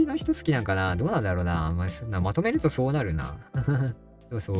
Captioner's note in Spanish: risas